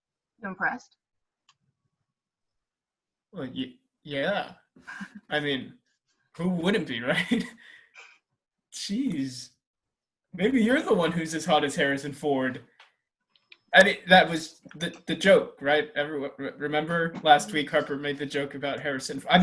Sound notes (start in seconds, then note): 6.5 laughs